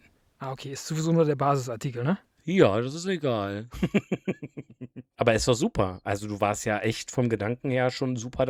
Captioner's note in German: gelächter